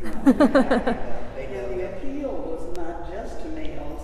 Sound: laughing

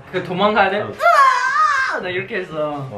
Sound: ahhhhh

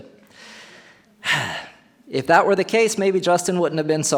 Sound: sighs

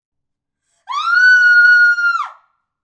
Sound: screaming

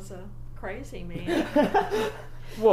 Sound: laughs

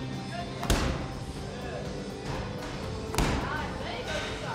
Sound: balls slams against floor

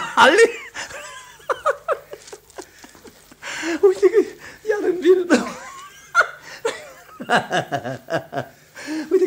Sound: laughs

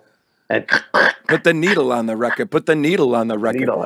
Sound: mimics scratching record sound

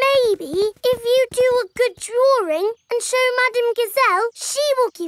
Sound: none

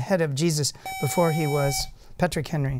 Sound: buzzer

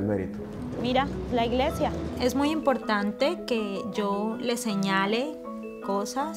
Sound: woman speaks foreign language

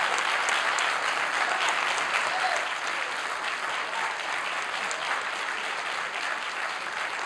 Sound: applause

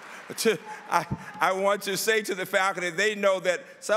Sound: laughter

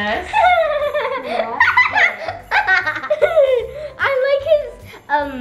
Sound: laughs

